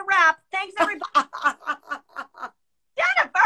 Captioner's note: laughing